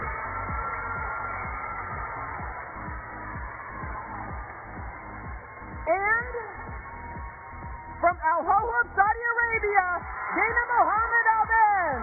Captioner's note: cheers and applause